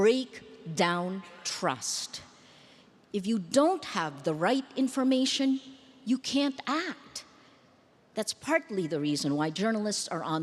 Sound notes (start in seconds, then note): none